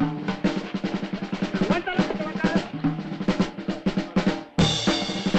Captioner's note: men chattering